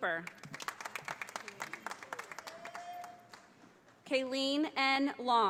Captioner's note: audience applauding